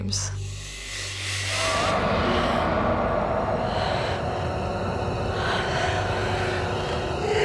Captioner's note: dramatic music; heavy breathing